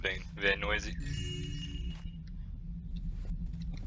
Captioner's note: joyous chime